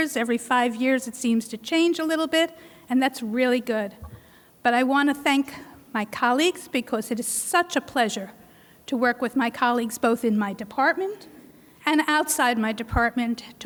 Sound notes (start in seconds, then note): none